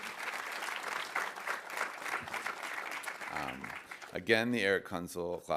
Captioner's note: audience applauding